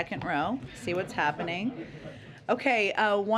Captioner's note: laughter